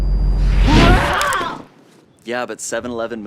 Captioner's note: yelps